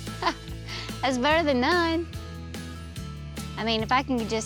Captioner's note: chuckles